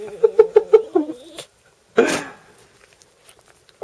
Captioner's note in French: rires